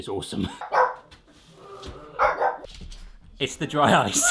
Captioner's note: dog barks